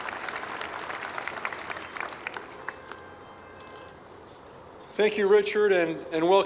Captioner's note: applause